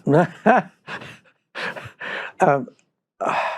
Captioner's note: laughs